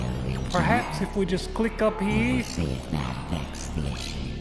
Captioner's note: computer bleep